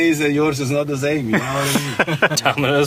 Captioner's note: laugh